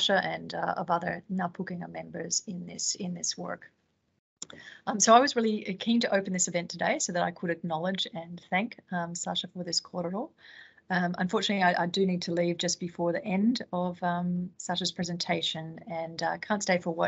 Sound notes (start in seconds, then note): none